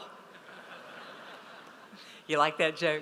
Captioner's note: audience laughs